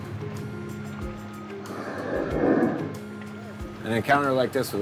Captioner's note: sound of whales